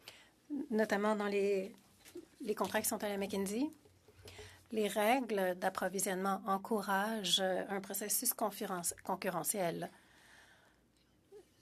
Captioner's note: speaking French